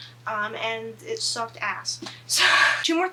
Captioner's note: laughs